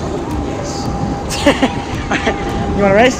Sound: laughing

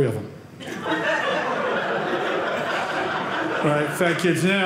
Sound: audience laughing

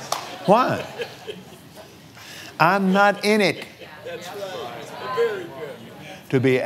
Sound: laughs

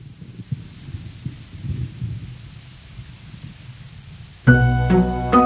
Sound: rain pattering; thunder lightly rumbling; mellow music

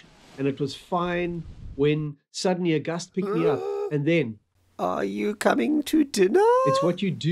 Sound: creepy voice

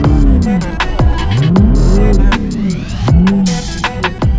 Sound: car engine growling

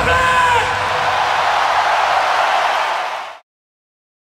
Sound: audience cheering; audience applauding

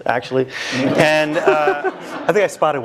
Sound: laugh

